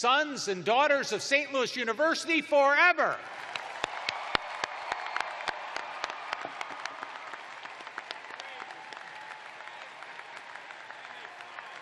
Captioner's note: cheers and applause